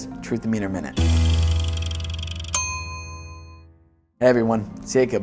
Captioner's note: dramatic music; meter dinging